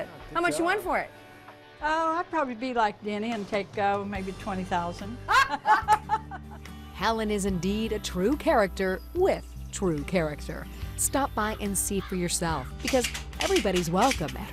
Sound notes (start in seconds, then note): 5.2 laughter